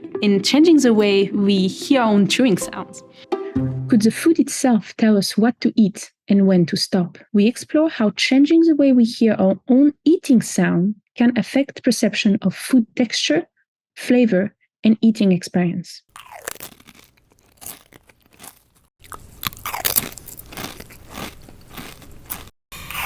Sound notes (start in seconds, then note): 16.1 person crunching food; 19.6 person crunching food loudly